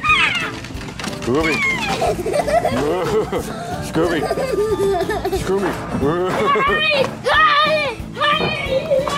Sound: laughter

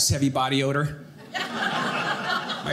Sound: audience laughing

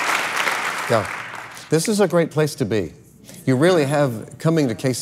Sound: applauds

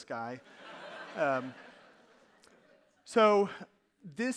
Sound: audience laughing

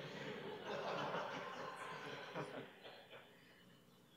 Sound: laughter

